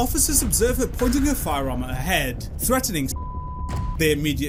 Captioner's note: beep